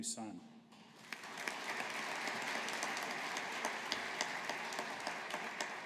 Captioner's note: audience applauding